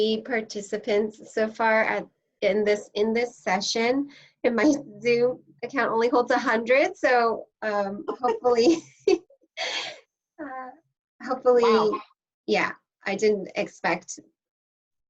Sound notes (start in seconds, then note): 8.0 laughter